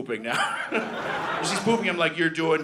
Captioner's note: audience laughing